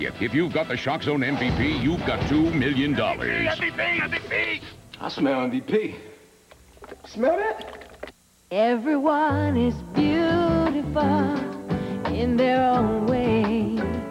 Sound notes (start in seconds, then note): 6.6 aftershave splashes